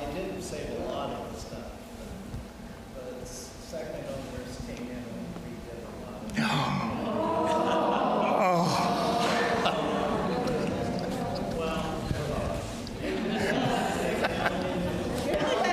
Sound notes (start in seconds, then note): 5.6 speaking faintly; 6.3 gasps; 7.3 audience gasps; 13.0 audience laughs